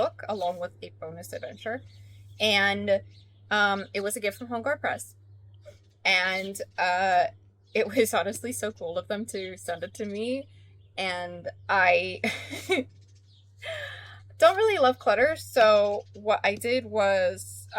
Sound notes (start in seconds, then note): 12.2 laughs